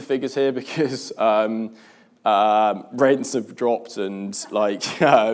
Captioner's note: laughs